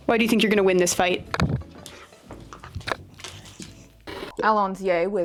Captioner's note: dog mouth snapping and claws on hardwood floor tapping; TV noise